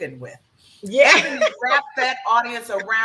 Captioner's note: laughs